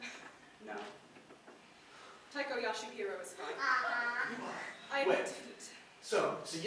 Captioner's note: without accent